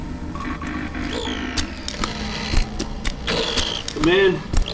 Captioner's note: machine crackling